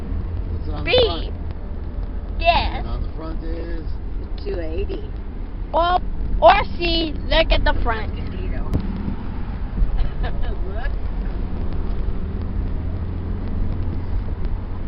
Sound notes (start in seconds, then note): 10.0 laughs